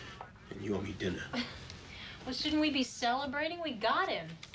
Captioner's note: laughs